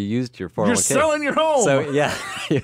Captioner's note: laughs